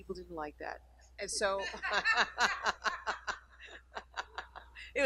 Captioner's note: laughing